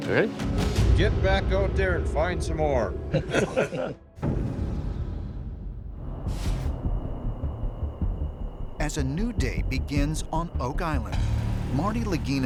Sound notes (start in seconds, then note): 3.1 laughs